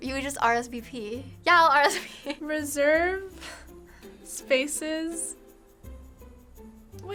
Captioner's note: chuckles